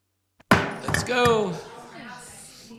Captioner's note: gavel banging